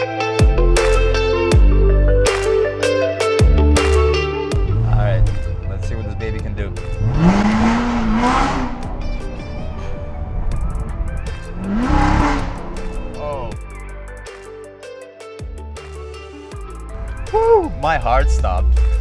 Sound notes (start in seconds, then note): 7.3 car engine roaring; 9.3 soft music; 11.7 car engine roaring; 13.8 soft music